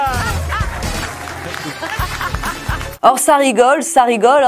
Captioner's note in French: Rires